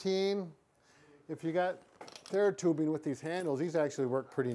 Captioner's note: none